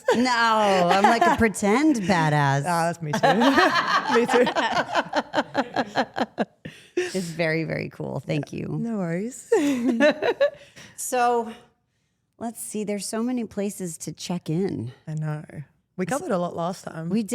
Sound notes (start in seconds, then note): 3.0 Stephanie laughs; 10.1 laughs